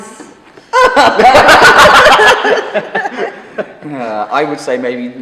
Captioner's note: laughing